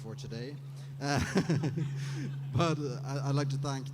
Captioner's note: laughter